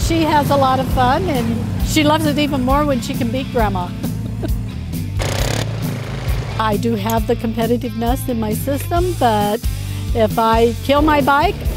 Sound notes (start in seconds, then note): 3.8 laughs; 4.5 ATV engines roaring; 4.5 upbeat rock music